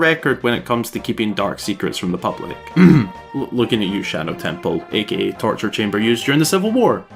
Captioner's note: cough